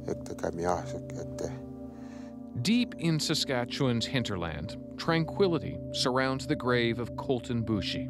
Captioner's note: speaking cree language